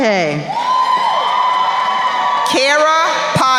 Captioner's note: crowd cheering